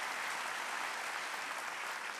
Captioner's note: applause